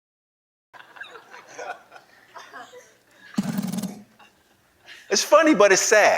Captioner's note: laughing